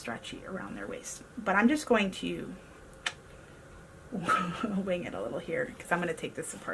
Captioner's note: laughs